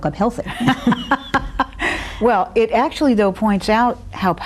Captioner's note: laughs